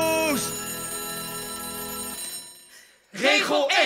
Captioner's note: alarm rings